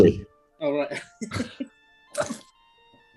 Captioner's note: laughing